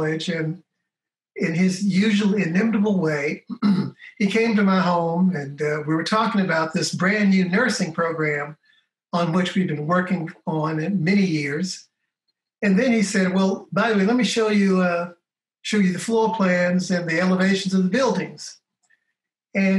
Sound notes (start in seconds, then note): 3.4 clears throat